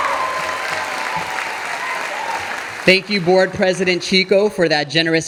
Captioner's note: audience applauding